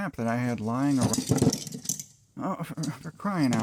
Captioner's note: tools falling